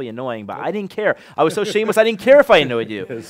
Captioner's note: laughter